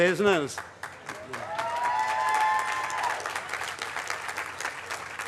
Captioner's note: cheering, applause